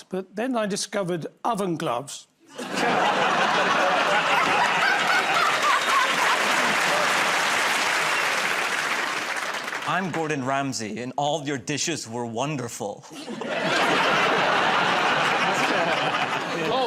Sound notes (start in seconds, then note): 2.5 laughter; 5.6 applause; 13.1 laughter